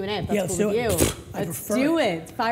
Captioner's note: scoffing